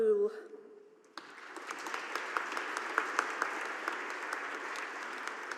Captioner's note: audience applauding